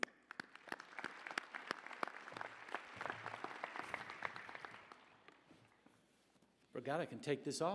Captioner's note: applause